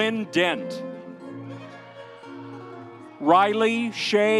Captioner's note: audience cheering